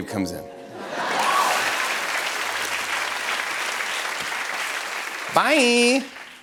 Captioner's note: laughter and applause